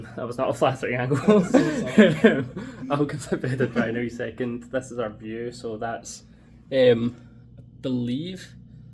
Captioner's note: laughs